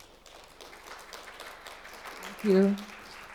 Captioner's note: crowd applauding